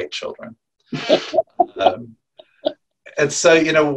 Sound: laughing

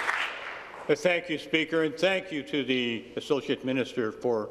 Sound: applause

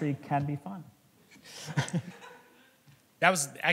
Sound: laughter

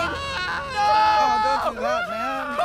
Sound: screaming

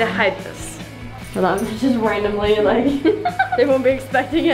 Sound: laughs

